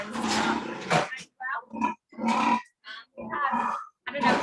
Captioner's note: pigs grunting